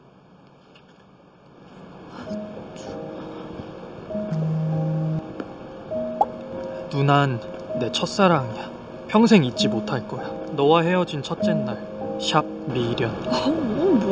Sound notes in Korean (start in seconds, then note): 4.2 진동